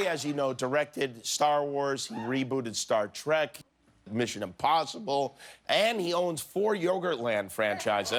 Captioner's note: laughter